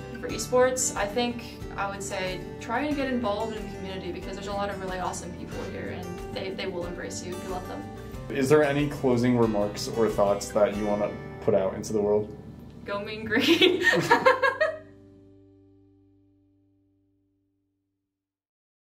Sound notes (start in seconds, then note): 13.4 laughter